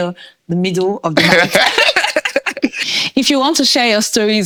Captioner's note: laughing